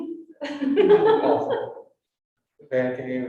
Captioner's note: women laughing